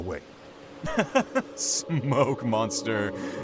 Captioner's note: laughs